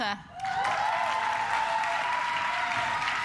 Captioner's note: claps